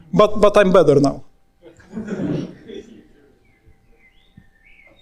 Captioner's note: audience laughing